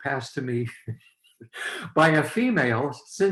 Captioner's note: laughs